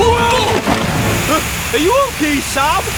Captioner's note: thud!